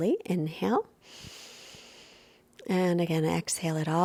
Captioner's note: inhales deeply